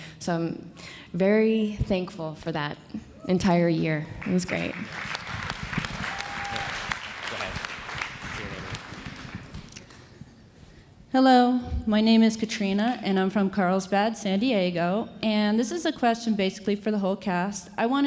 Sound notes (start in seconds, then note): 4.2 audience applauds; 5.2 indistinct conversation